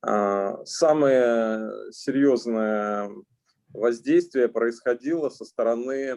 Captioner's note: speaking Russian language